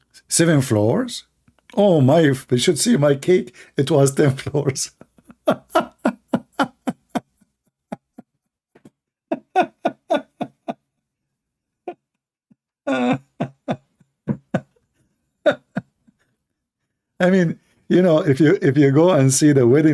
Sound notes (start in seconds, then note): 9.3 Ketawa